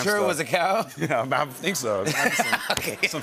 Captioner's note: laughter